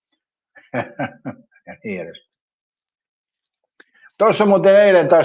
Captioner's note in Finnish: naurua